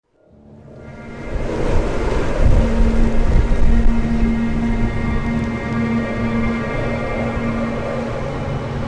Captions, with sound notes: (DARK MUSIC) (THUNDER RUMBLES, RAIN PATTERS) Captions were made with the support of NZ On Air.